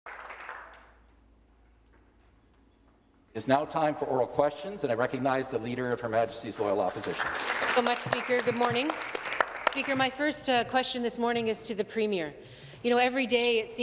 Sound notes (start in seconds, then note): 4.3 some Applause